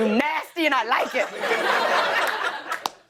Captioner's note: laughter